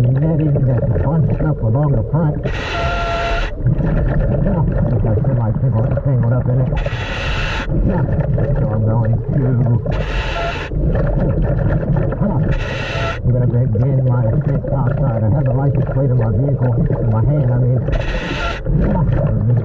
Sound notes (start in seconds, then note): 2.4 mouthpiece hissing; 2.7 water bubbling